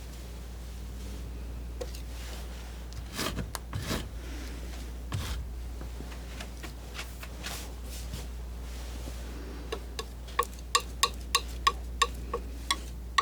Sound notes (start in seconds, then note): 1.0 tapping